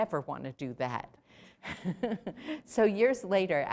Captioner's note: laughter